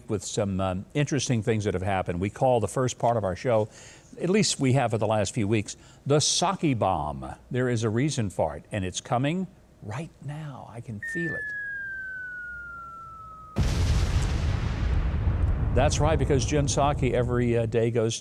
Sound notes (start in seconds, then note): 11.0 siren wailing; 13.7 bomb explodes